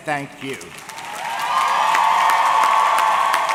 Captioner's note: audience cheering; audience clapping